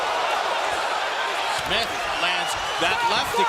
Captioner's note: crowd reacting